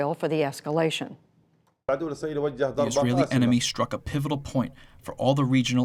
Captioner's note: through translator